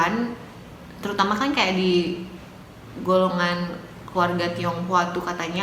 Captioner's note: Chinese